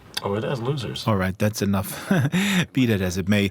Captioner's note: chuckles